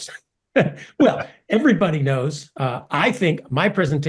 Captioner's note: laugh